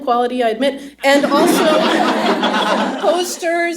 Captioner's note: laughter